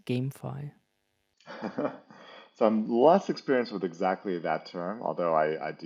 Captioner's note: laughs